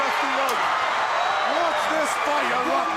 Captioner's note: crowd cheering